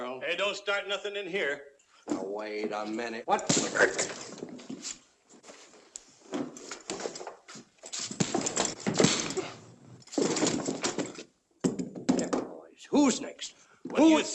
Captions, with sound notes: Hey, don't start nothing in here. Wait a minute. [ PUNCH ] [ PUNCHES ] Who's next? Who's--